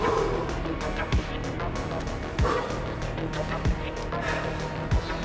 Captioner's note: John panting